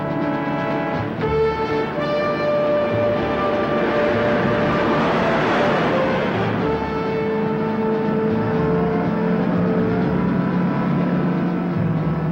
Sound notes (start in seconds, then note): 0.0 truck whizzes; 0.3 suspenseful music; 5.2 truck whizzes; 9.2 suspenseful music